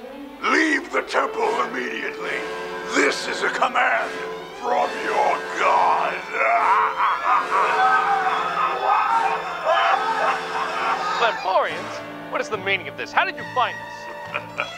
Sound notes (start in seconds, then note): 6.4 maniacal laughter; 8.7 CENTI-PEOPLE screaming